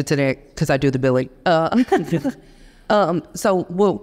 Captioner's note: chuckles